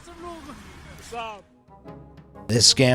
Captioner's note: driver speaks in foreign language